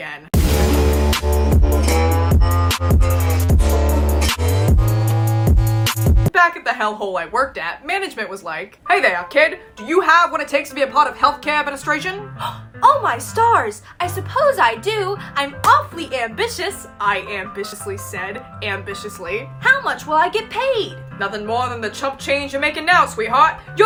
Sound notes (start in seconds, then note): 12.2 in a 1920s kiss ass voice; 12.3 gasps; 19.5 in a 1920s kiss ass voice